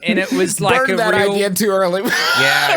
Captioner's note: laughs